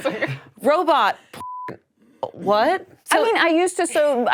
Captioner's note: beep